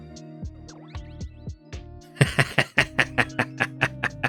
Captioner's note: laughs